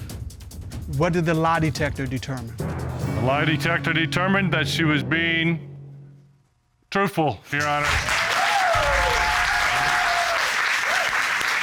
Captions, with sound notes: What did the lie detector determine? The lie detector determined that she was being truthful, Your Honor. [applause]